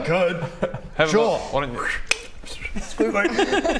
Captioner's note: whooo click twiwoo